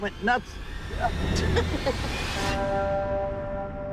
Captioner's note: chuckling